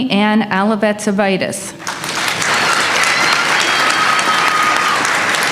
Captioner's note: applause